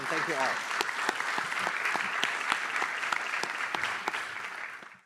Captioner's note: applause